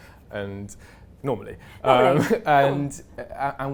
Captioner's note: laughs